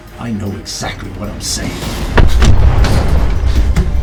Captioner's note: explosion